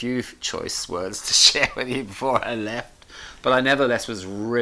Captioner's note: chuckles